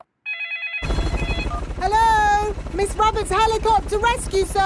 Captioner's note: phone ringing; dialing